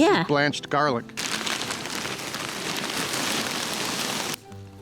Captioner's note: tarp rustling